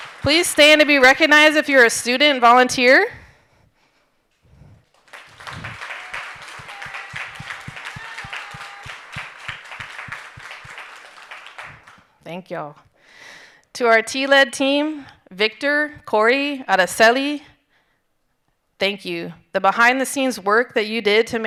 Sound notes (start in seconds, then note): 4.9 audience applauding and cheering